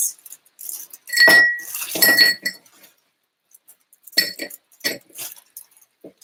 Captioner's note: ice clangs against glass